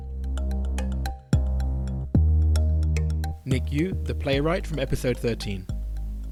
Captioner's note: voiceover